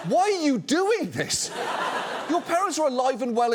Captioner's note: audience laughs